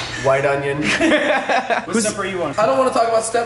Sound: laughter

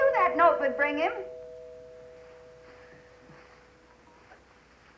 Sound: doorbell ringing

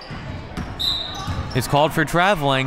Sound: whistle

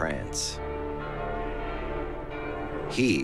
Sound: bells toll

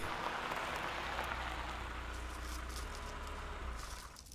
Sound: car rattles and Stops

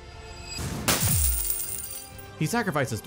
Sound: treasure tokens clanging

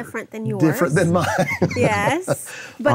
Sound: laughs

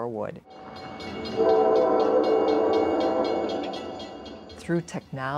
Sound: bells clanging, train whistles

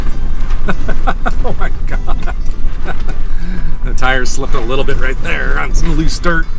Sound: laughs

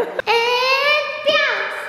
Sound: laughing

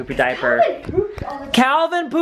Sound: voiceover

